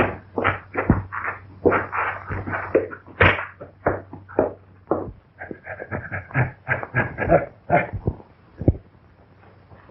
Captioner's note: pounding